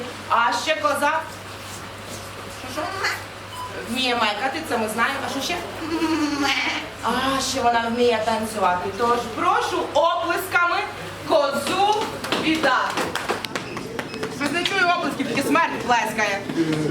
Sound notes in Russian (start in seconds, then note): 12.8 тихі оплески